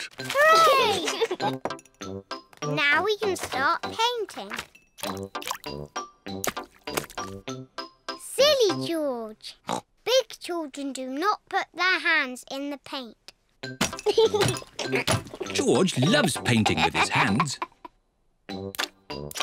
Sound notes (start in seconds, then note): 0.7 giggles; 14.0 giggles